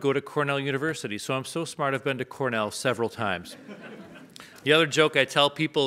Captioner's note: audience laughs